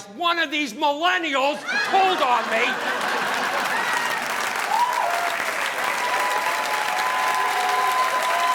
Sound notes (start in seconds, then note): 1.8 audience applauding